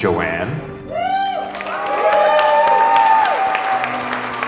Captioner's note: crowd cheers